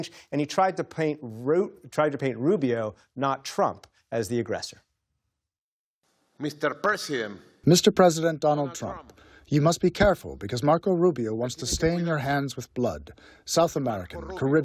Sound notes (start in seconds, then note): 7.2 through translator